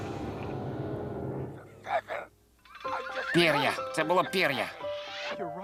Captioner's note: man on T.V